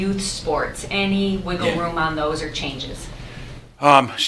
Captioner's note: off mic